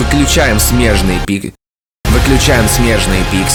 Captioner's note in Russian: Тишина